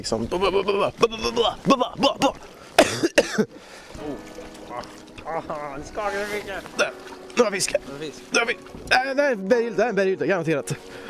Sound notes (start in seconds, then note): 2.7 cough